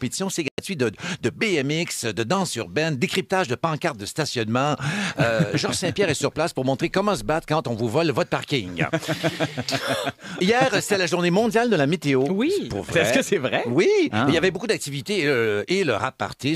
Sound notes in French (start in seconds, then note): 8.7 rires